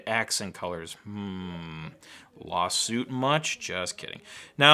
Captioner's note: hums